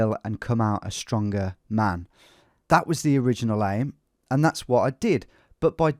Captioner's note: none